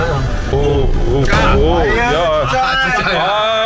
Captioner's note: A sudden brake